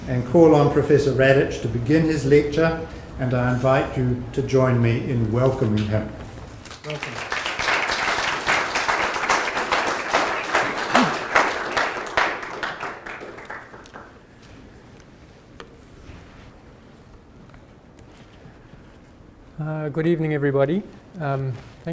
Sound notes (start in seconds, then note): 6.6 audience applauding